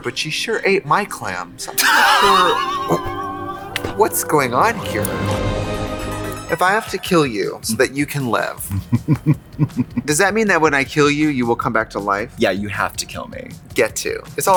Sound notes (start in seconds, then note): 1.6 Katya laughs; 8.7 Katya chuckles